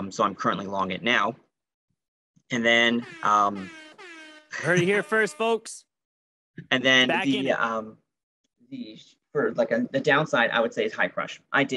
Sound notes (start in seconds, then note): 3.5 siren wailing